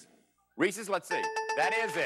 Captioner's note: dings